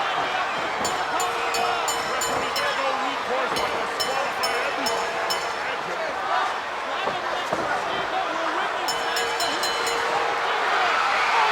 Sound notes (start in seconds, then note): 0.8 bell ringing